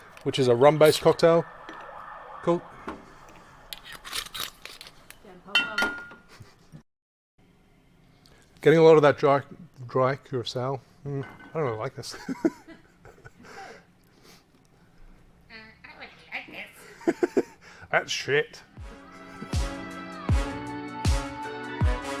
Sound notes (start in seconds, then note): 2.9 distant siren noises; 12.5 laughs; 16.9 laughs; 19.0 upbeat jazz music